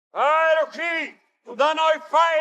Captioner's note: non-english speech